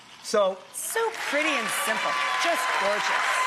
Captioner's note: audience applauds